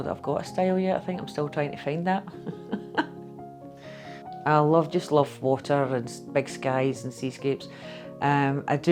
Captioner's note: laughter